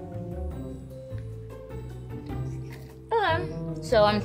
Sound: mischievous music; chewing

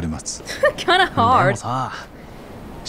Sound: chuckles

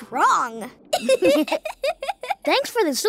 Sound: laughing

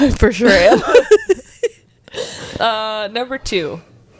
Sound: panel laughing

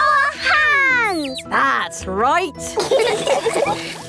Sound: all laughing

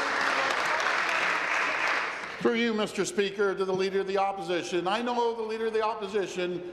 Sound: applause

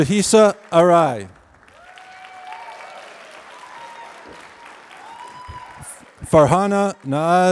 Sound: applause

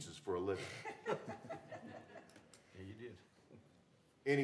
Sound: laughter

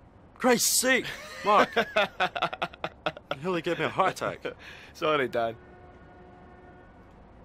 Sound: laughing

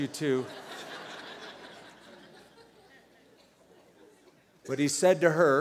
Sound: laughter

